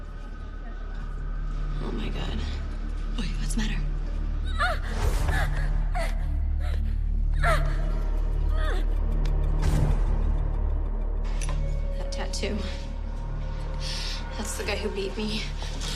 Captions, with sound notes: Oh, my God. Why? What's the matter? [Tessa gasping] That tattoo. That's the guy who beat me.